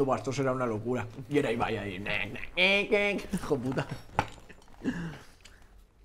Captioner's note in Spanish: hace ruidos con la boca